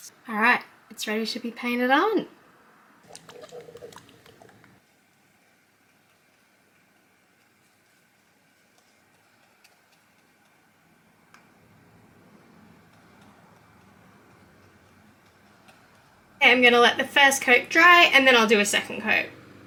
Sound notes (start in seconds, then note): 3.0 paint shaking making splashing noise